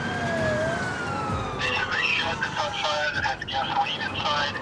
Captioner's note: man, over radio